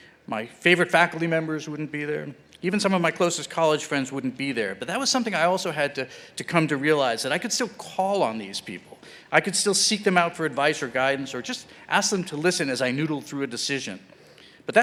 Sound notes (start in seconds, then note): none